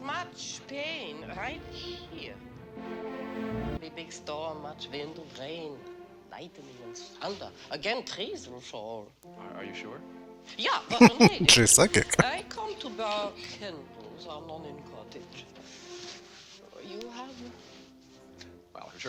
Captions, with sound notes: [Laughing] She's psychic.